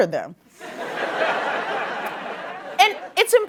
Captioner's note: laughter